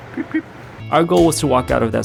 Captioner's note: exclaims